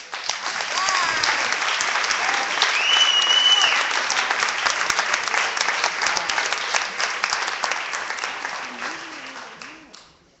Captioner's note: clapping